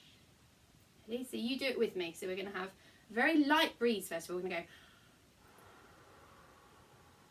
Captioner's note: blow